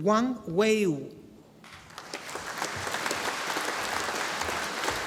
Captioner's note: audience applauding